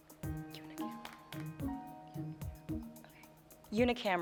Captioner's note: whispering